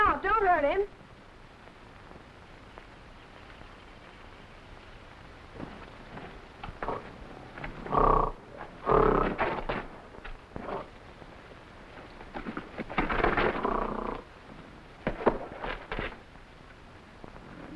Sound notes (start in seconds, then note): 4.3 gorilla grunting; 5.4 footsteps echoing